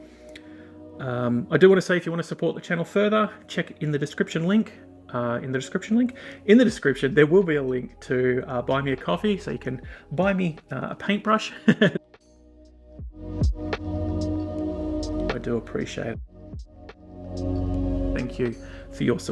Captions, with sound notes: (soft music) I do want to say if you want to support the channel further. Check in the description link, in the description, there will be a link to buymeacoffee.com. So you can buy me a paint brush (Laughs) I do appreciate it <3